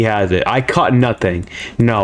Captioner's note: inhales Oxygen